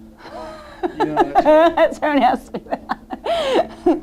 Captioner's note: laughs